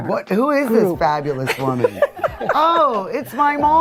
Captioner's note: laughing